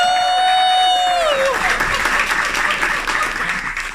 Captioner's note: clapping & cheering